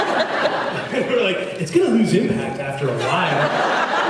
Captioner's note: laughing; laughs